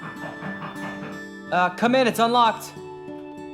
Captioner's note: knocking